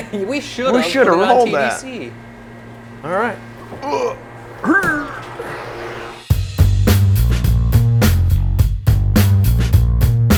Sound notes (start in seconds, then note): 3.8 grunting; 6.5 upbeat music